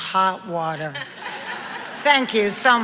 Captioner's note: audience laughs